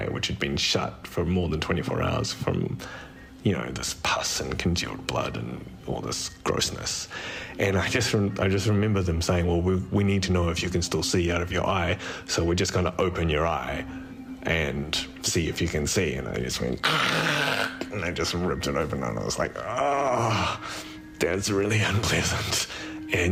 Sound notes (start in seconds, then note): 16.8 guttural scream; 19.6 exclaims